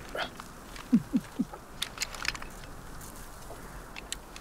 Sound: laughs

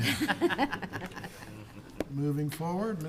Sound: people chuckling

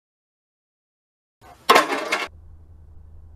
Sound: clatter

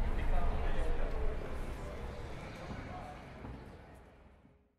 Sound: the demonic drone and street ambience fade out

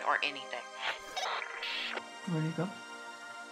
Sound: radio bleep and static

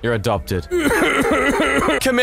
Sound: uncontrollable sobbing

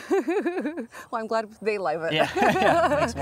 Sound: laughing

